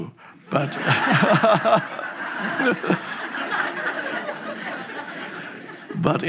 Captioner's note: audience laughs; Eckhart laughs